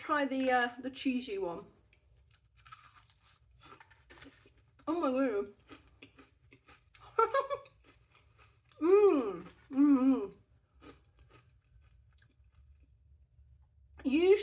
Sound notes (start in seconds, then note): 1.8 crunch; 7.1 laughing; 8.8 happy mouth noises